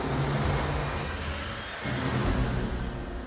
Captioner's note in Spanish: Ruido de motor